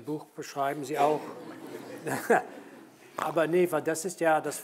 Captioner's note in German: Alle lachen